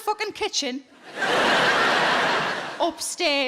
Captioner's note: audience laughing